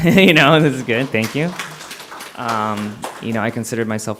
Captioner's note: applause